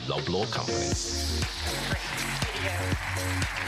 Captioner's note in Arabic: تصفيق